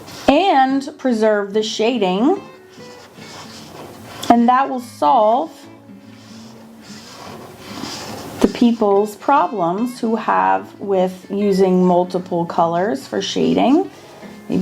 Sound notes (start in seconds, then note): 6.1 marker scratching